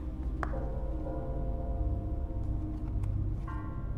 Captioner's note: shoes tapping